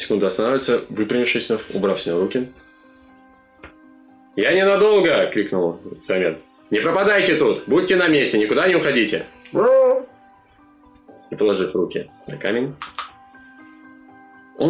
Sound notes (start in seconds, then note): 9.0 zombie noises